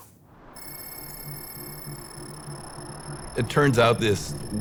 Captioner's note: pulsing electric chirping